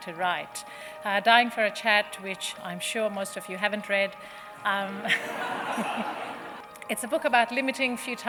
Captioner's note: laughter